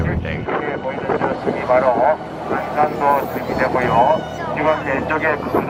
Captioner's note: muffled Korean chatter